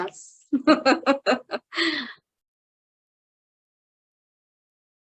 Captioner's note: chuckling